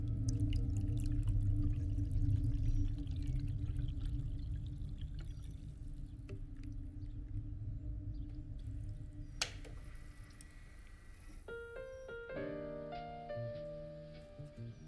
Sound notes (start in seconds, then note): 0.0 water pouring; 9.4 click; 11.3 gentle piano music